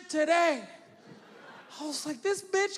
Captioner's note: audience laughing